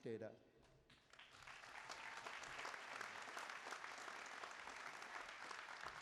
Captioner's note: applause